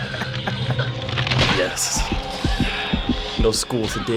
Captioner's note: heart beating